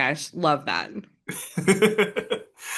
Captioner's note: chuckles